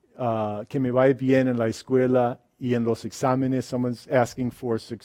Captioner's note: speaks in a foreign language